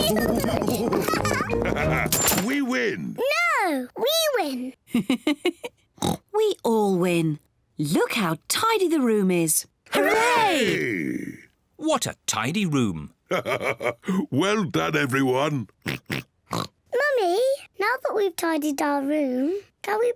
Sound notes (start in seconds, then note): 4.9 LAUGHS and OINKS; 13.3 laughs; 16.4 oinks